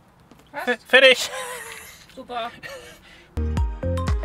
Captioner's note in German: lacht